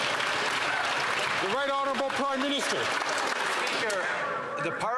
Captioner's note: some Applause